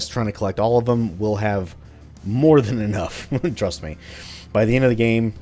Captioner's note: chuckles